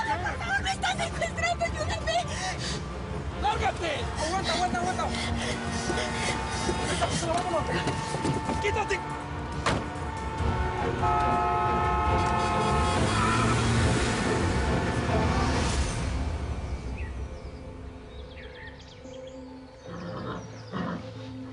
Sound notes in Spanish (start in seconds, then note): 6.6 Comienzan a sonar los cláxones; 9.6 Portazo; 11.0 Claxon continuo; 13.3 Chirrido de neumáticos